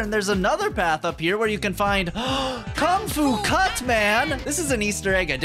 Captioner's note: gasp